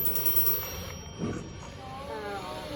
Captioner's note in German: Telefon klingelt